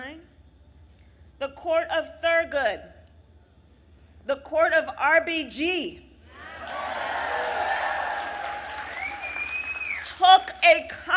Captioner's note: applause